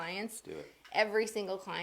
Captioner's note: mumbles